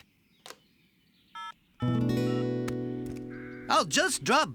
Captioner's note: phone Buttons Beep